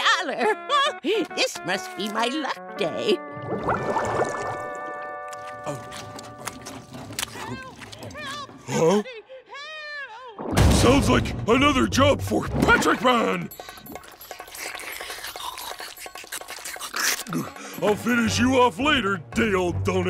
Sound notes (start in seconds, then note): 0.1 chuckles; 6.6 distant voice